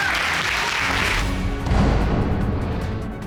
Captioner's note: audience applauding